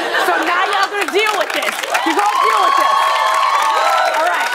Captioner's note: cheers and applause